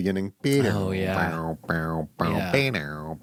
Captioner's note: imitates guitar